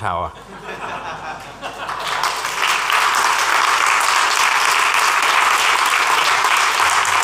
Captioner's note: laughter and applause